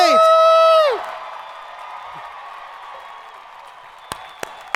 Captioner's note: crowd applauding